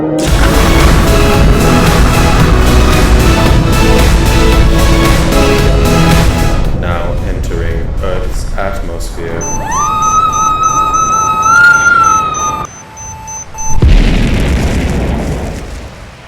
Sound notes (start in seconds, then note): 0.4 upbeat music; 9.4 screams; 9.4 beep; 13.8 explosion